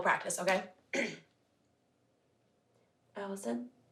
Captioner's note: clears throat